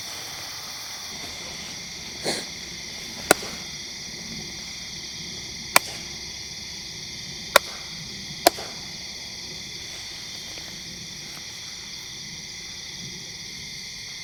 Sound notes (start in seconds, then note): 3.7 claps; 11.4 insects chirp